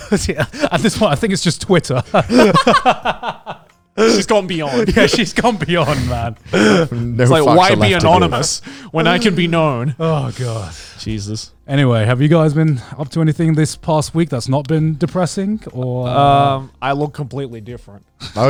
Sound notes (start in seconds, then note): 2.4 laughing